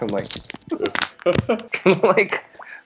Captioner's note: laughing